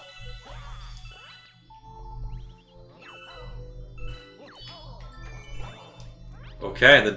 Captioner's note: gaming sounds; instrumental music